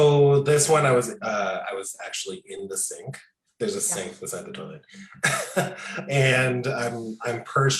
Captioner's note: laughs